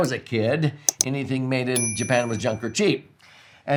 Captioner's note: mouse clicks; bell dings